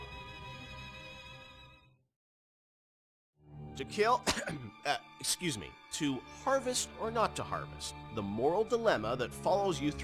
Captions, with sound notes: To kill... [coughs] Excuse me. To harvest or not to harvest. The moral dilemma that follows you